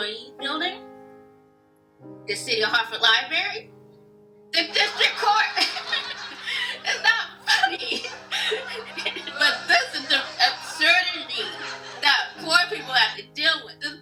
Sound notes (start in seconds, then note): 5.6 laughter